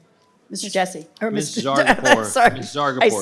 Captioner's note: laughs